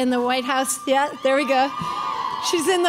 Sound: crowd cheering

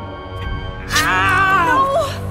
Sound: slash

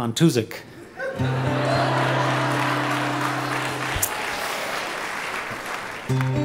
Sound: laughs; audience clapping

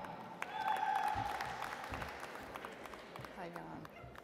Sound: audience applauds

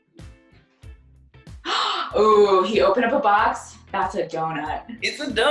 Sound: gasp

